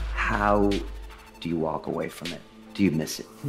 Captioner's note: none